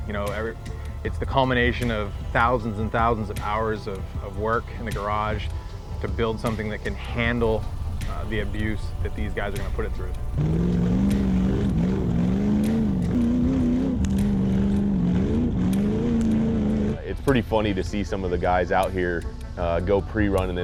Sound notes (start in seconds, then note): 10.5 engine revving